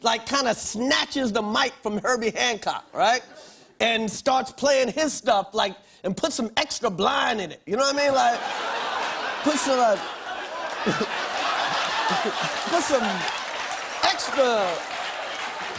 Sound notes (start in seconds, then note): 10.6 laughter